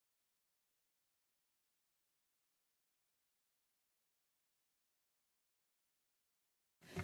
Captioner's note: silence